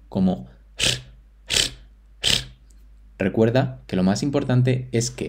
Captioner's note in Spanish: sonido de soltar el aire de forma intermitente con mucha fuerza